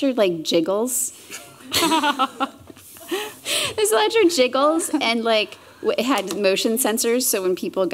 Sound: laughter

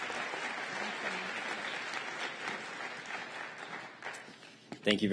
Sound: applause

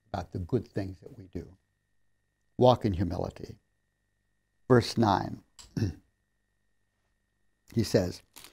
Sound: clears throat

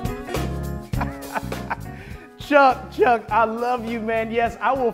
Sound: laughs

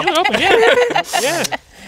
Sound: laughing

